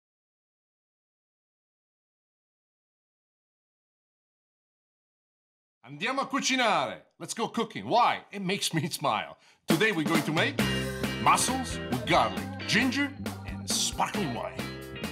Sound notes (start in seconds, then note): 5.6 speaking in foreign language